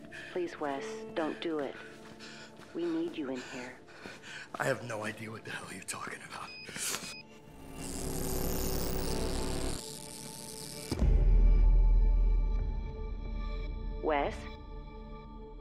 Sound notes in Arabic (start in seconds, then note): 6.6 صفير; 7.5 أزيز كهربائي